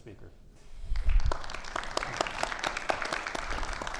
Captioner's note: audience applauding